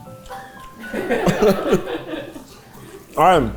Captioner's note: cast laughing